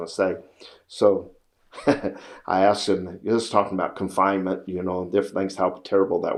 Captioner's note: laughs